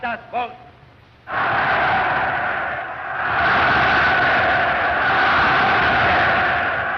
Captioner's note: loud cheering Heil Hitler!